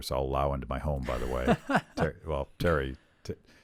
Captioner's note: laughs